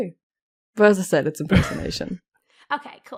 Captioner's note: Rik laughs